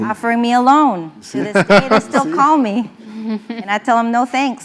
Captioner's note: laugh